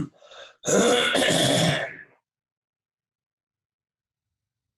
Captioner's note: clears throat